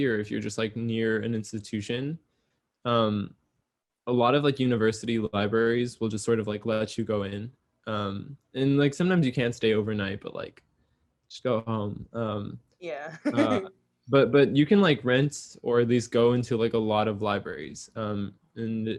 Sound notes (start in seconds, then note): 13.0 laughs